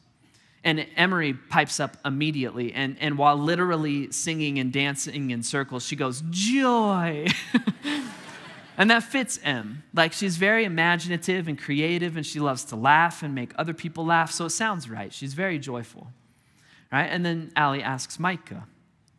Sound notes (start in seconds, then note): 7.3 chuckling; 7.4 congregation laughing